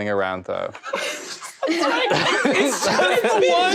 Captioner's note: laughter